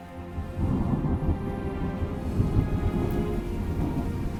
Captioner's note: thunder rumbling